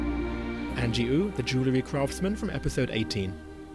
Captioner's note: voiceover